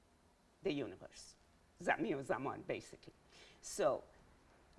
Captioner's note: speaking in Farsi